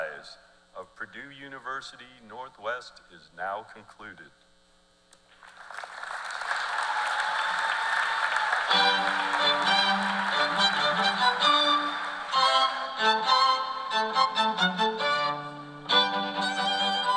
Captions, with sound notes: party and the faculty. Ladies and Gentlemen, the seventh commencement exercise of Purdue University Northwest is now concluded. [CHEERS AND APPLAUSE]